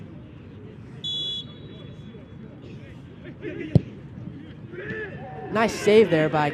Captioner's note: whistle blows